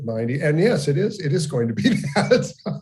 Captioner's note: laughs